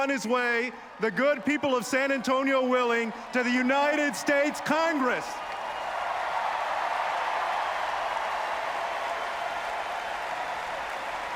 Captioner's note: applause